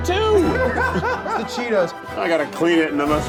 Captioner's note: producer laughs